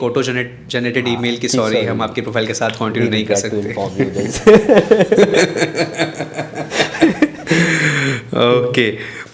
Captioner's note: laughs